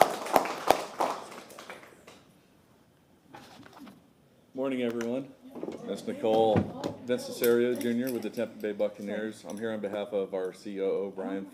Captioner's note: applause